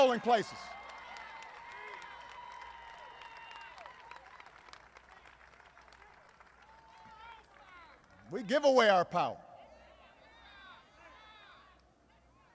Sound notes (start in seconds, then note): 4.3 applause